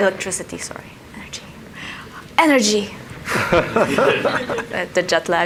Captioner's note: everyone laughs